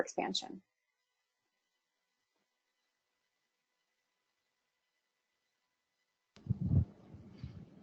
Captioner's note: pause